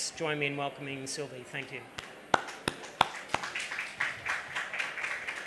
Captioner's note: applause